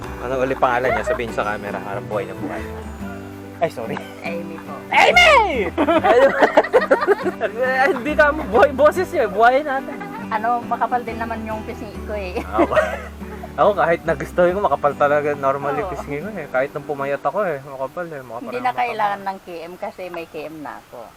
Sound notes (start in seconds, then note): 5.0 screaming